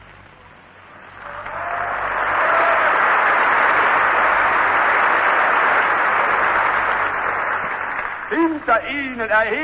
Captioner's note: applause